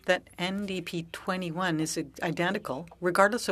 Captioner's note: speaking french